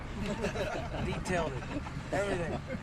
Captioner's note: laughter